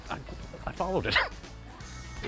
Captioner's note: chuckles